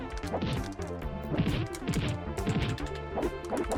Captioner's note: limbs whooshing